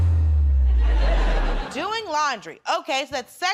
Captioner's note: laughter